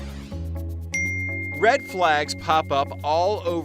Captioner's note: timer dinging